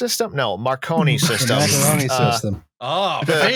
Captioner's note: laughter